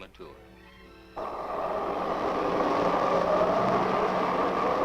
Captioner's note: wind rushing